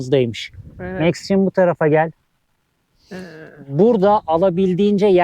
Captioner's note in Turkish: homurdanır